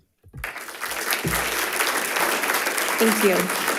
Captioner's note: audience applauding